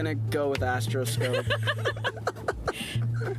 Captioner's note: laughing